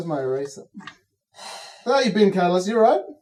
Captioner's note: Cataliss sighs